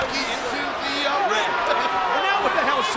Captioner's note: overlapping chatter